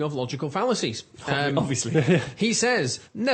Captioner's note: laughs